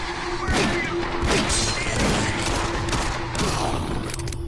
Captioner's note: gunshots